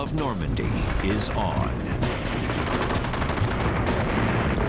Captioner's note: gunfire